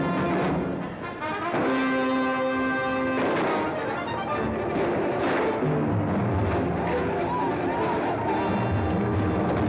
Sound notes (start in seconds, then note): 0.1 dramatic music; 3.0 gunshots; 6.9 Comanche battle cries; 8.5 dramatic music